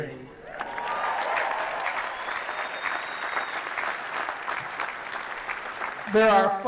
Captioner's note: applause